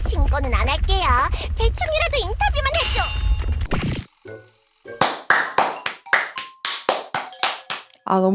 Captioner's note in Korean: 박수